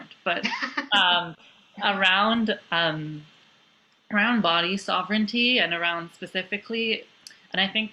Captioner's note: laughter